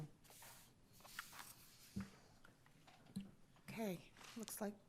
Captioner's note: papers rustling